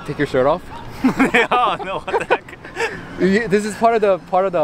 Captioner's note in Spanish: risas